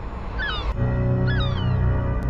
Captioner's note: gulls squawking; slow ominous music continues